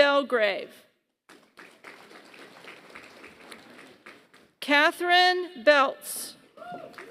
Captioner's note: applause; applause